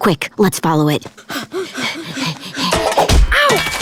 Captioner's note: breathing heavily